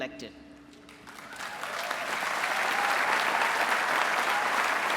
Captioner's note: applause